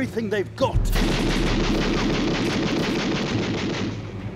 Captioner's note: guns firing